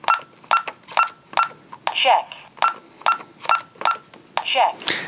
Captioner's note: beeping sounds